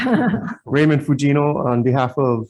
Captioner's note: all laughing